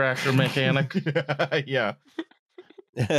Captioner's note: laughs